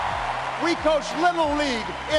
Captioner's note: applause